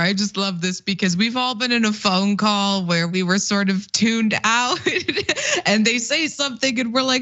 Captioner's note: laugh